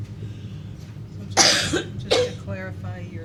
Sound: coughs

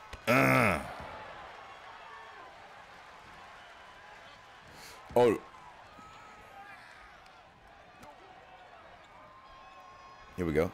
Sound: applause

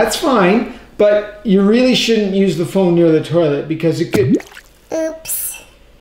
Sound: sploosh

